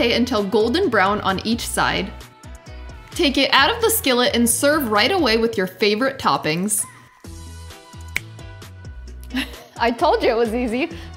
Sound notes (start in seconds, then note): 8.0 snaps fingers; 9.3 laughs